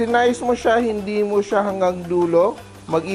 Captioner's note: sizzle